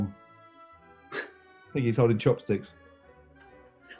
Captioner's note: laughs